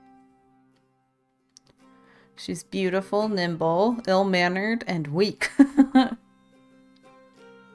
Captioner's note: laughs